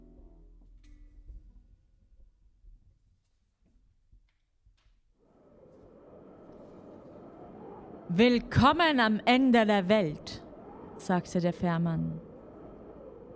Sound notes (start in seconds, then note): 3.5 wind noises